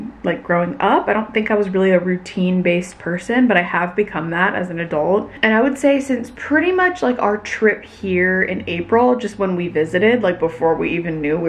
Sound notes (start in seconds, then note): none